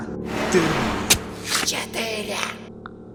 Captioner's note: the sound of flesh